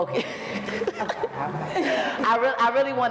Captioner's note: laughs